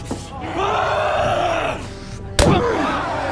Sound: shouting; crowd exclaiming

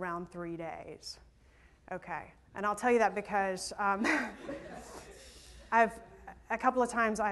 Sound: laughter

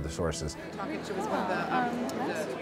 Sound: people talking in background

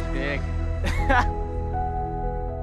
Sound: laughs; inspirational music

